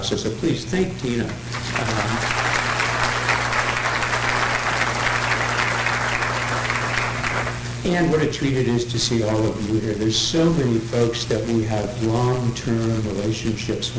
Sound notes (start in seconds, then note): 1.4 applause